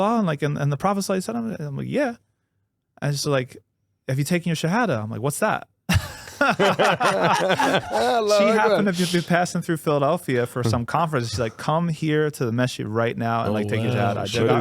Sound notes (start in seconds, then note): 7.9 laughing